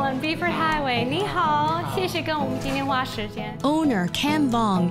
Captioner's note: speaks Mandarin